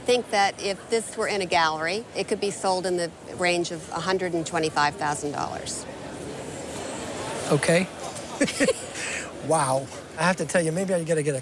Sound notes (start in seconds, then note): 8.2 chuckles